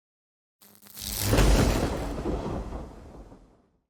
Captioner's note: thunder claps